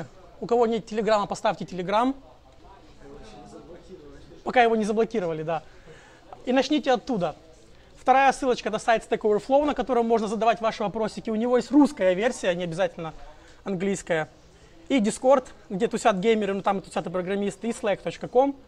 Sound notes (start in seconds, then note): 3.1 crowd